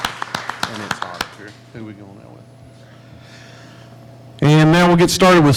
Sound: faintly speaking

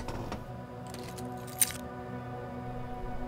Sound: chair squeaking; keys jingling

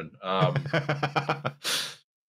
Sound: laughs

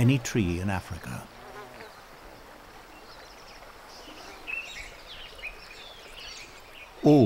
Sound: birds chirping

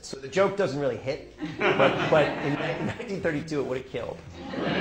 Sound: laughter

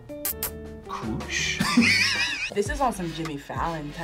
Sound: React laughs

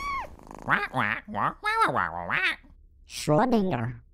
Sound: questioning squawk

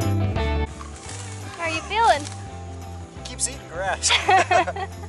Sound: laughter

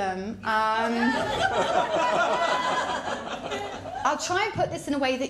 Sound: laughter

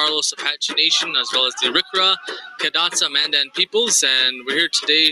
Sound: speaking foreign language

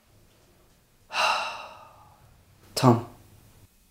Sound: sigh

